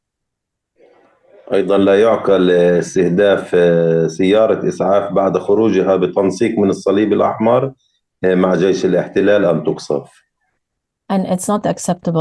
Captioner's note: speaking arabic